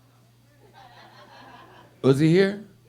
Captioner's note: audience laughing